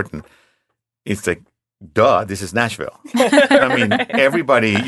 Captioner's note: laughing